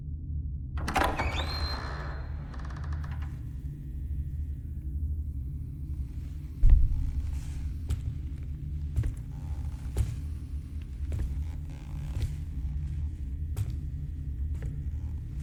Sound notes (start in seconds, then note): 0.8 door creaks; 6.5 heavy footsteps